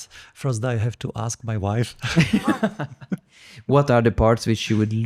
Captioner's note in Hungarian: nevetés